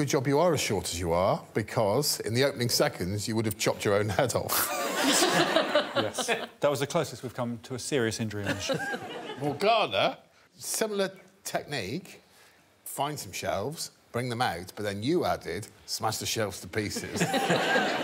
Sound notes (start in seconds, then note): 4.7 all laughing